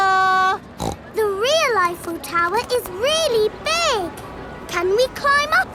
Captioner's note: snorts